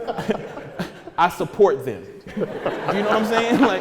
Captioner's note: audience laughing